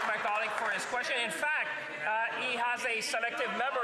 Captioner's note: some Applause